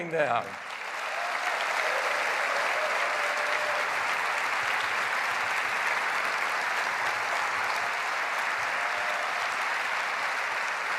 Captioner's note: applause